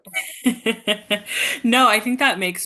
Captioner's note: laughing